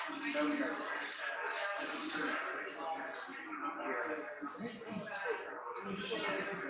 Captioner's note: people chattering indistinctly continues